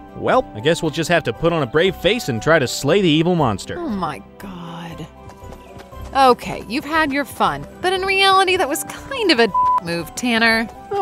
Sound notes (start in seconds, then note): 4.9 footsteps tapping; 9.5 beep